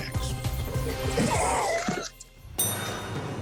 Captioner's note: laughs